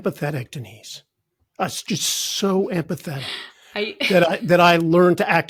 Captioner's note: chuckling